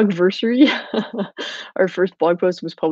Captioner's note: laughing